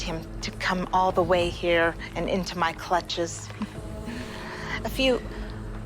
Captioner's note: laughs